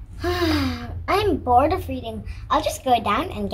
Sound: sighs

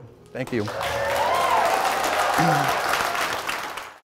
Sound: applause

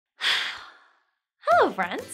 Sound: sighs

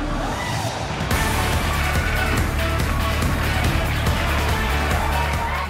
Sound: crowd applauding

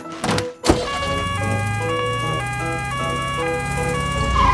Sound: siren sounding

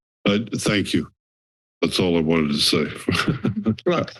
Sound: laughs

